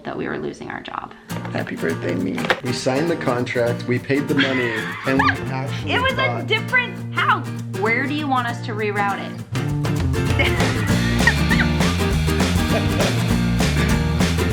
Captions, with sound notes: that we were losing our job. - Happy Birthday me! We signed the contract, we paid the money, and we actually thought, - It was a different house! Where do you want us to re-route it? (Both laughing) (upbeat music)